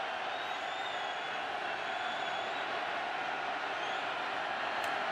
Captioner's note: cheers, applause